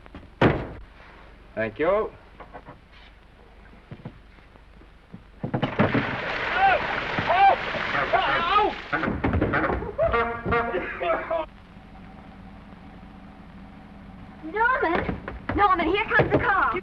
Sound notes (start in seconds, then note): 0.4 door bangs shut; 5.4 Maine yelps; 5.6 water gushes; 9.9 Maine coughs & yelps; 10.0 horn honks; 12.3 car rumbles softly